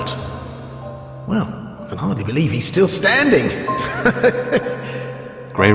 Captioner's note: laughs